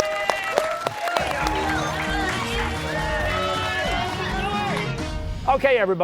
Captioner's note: cheers and applause